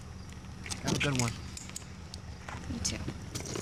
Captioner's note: luggage handle clacks